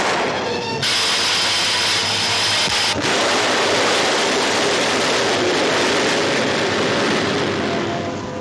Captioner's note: flamethrower roars; guns fire; flamethrower roars; suspenseful music